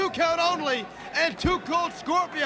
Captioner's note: crowd cheering